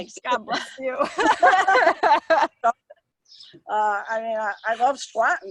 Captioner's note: both laughing